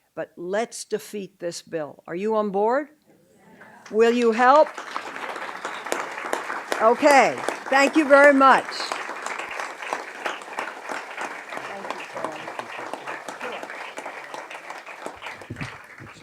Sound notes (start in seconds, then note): 4.9 audience clapping